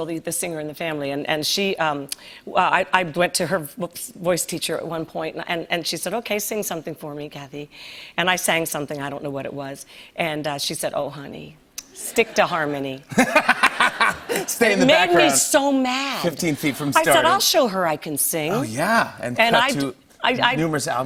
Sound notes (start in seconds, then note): 13.0 laughter